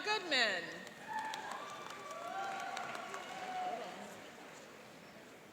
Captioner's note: cheering and applauding